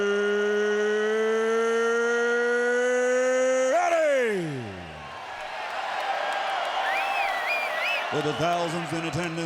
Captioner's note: applause